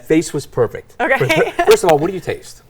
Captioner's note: laughs